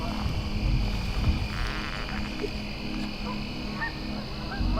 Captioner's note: bow string tenses